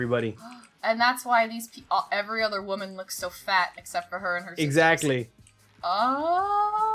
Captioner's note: gasp